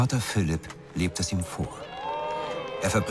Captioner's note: crowd screams